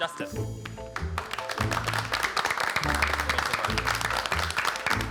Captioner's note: group applauding